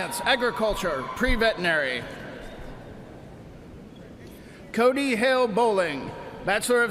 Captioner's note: cheers and applause